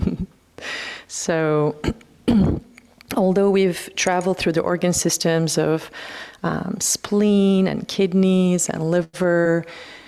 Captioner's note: clears throat